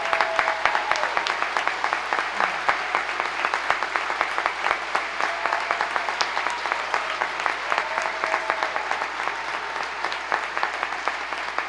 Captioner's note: applause